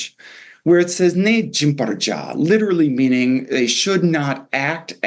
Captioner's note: non-english